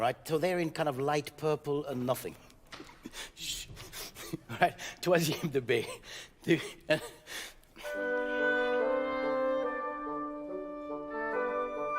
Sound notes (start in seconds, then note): 3.5 giggles softly; 3.5 speaking in French; 7.8 playful orchestral music